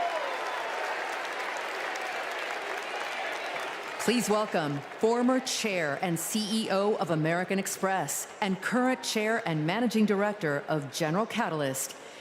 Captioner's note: applause